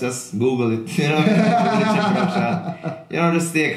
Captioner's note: laughing